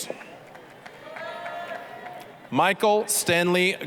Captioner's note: applause, cheering